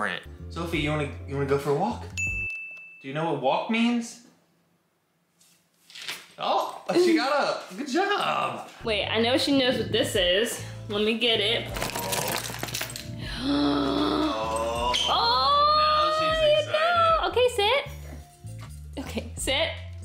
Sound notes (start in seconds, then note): 13.1 gasps